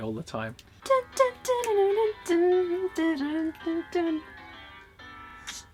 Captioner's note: hums along